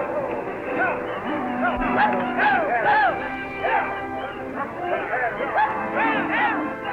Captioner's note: adventurous music; cattle low